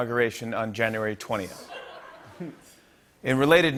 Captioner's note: laughter